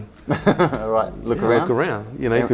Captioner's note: laughing